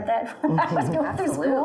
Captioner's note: laughs